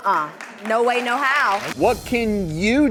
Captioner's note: audience applauds